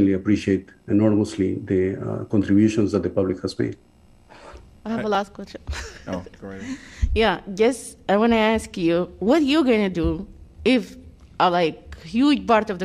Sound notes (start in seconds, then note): 5.6 laughter